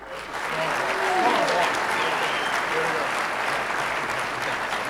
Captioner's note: audience applauding